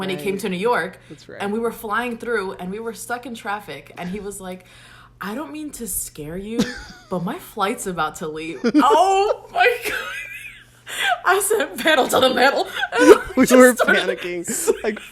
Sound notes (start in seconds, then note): 11.8 laughs; 12.2 both laugh